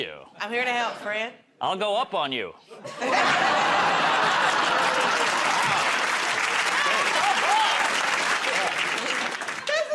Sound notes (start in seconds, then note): 2.8 laughter; 7.1 applause